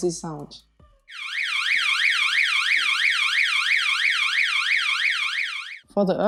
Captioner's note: alert